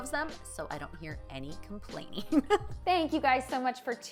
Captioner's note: chuckles